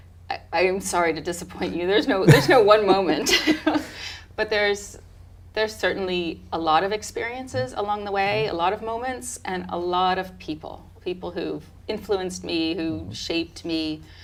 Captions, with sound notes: - I am sorry to disappoint you. There's no one moment. (laughing) But there's certainly a lot of experiences along the way, a lot of moments, and a lot of people, people who've influenced me, who shaped me.